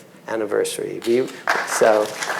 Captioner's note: audience clapping